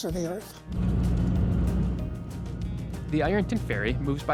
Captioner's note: ferry motor humming